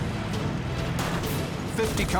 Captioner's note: gunfire